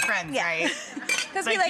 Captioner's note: laughing